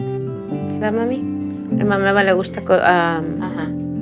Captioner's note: speaking foreign language